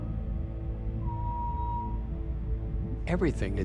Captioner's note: whale bellows; whale whistles